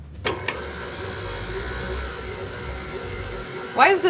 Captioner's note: machine whirrs